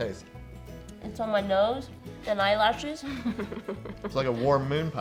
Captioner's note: laughs